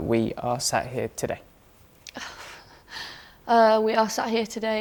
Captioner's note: exhales